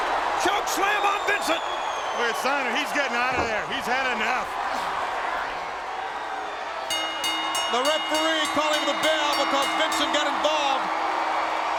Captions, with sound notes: Chunk slam on Vincent. But Steiner, he's getting outta there, he's had enough. (bell rings) The referee calling the bell because Vincent got involved.